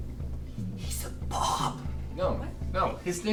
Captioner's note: whispers